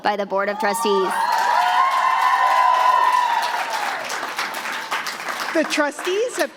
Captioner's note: applause